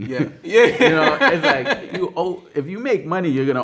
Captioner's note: man laughing